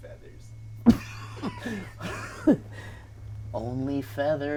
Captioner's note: laughing; laughs